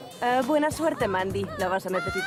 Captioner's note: mandy screaming